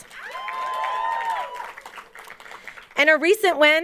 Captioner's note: audience cheering and applauding